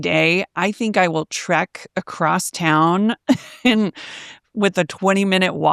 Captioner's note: chuckles